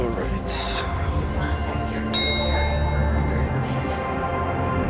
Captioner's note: bell